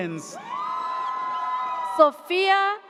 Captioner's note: audience cheers